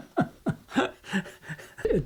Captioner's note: laughter